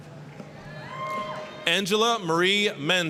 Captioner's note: applause, cheering